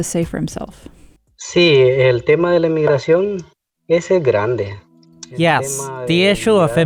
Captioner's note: foreign Language